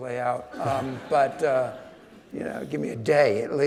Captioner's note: audience laughing